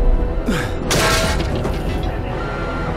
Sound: clang; beeping

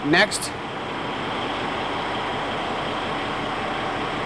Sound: sfx: engine running

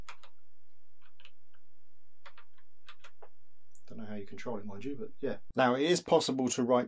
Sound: keyboard clicking

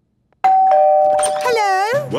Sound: doorbell ringing

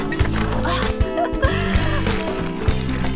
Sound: laughing

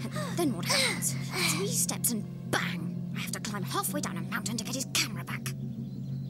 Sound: mumbling

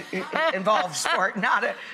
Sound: laughs

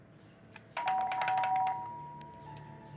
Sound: doorbell ringing

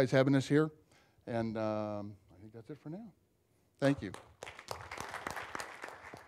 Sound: applause

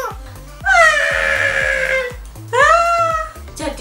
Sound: scream hysterical

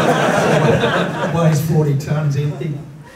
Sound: laughter

